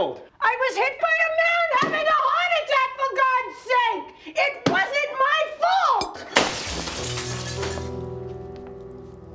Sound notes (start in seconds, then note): 6.0 glass shatters